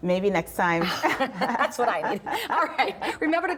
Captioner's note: laughs